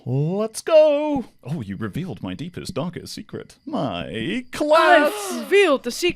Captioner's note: gasps